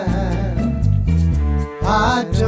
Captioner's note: chimes